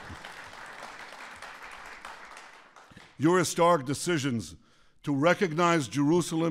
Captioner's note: applause